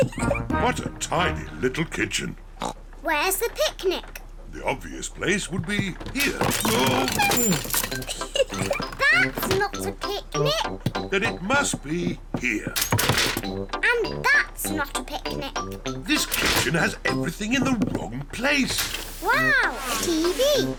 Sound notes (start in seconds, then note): 2.6 oinks; 6.7 giggles